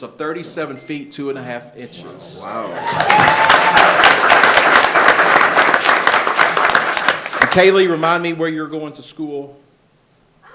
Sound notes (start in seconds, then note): 2.6 attendees applauding and cheering